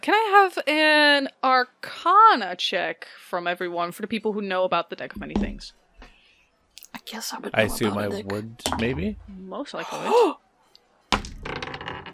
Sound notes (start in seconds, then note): 6.9 whispering; 8.6 dice clacks; 8.6 fantastic, 100/10 wonderful dice noises; 9.8 gasps